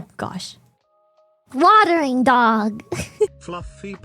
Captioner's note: laughs